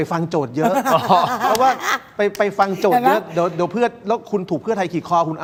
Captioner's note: laughter